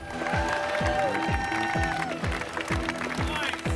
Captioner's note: cheering and applause